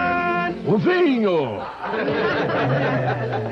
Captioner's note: all laugh